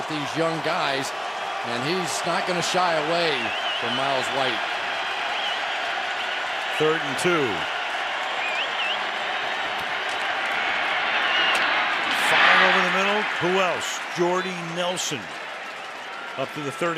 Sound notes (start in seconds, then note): 5.3 cheering